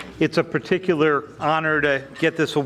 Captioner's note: none